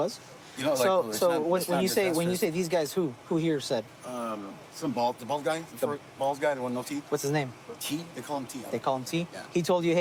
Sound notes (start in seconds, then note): none